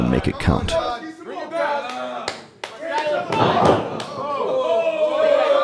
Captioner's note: audience cheering